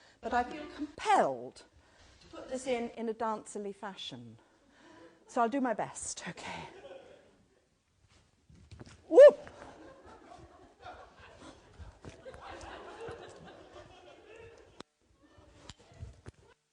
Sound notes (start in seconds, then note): 6.8 audience laughter; 9.6 audience laughter